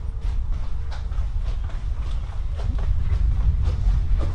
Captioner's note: footsteps